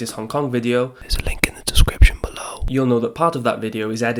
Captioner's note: whispers - link in the description below